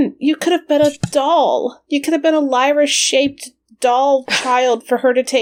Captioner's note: sighs